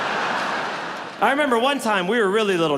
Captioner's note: audience laughs